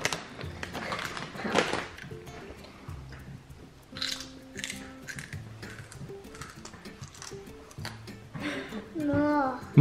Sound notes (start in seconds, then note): 1.2 chip crunch; 8.7 small laugh